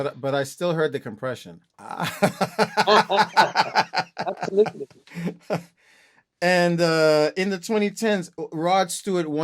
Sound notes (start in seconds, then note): 1.9 laughter